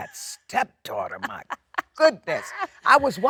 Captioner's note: Jennifer laughs